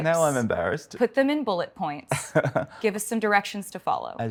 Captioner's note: Martin laughs